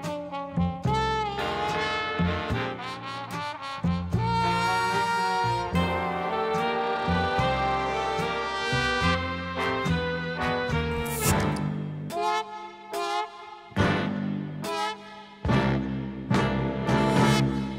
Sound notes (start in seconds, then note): 11.3 soda fizzing; 14.7 sultry jazz music